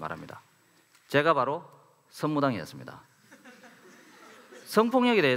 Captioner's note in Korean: 웃음